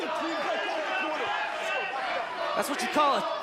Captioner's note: crowd cheering